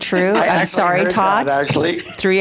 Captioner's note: laughter